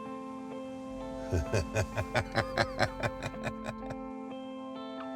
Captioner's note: jeremy laughs